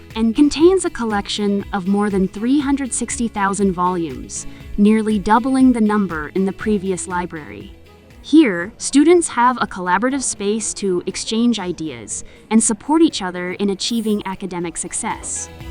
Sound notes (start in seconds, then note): 8.2 library ambience